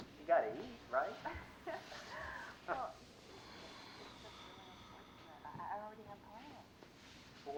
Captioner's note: laughs